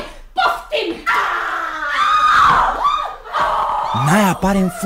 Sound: the women scream

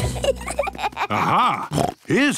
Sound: children giggling; snorts

